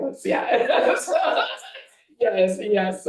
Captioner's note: board members laughing and chattering